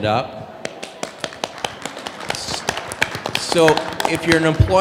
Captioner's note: applause